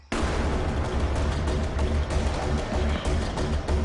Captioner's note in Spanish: Explosión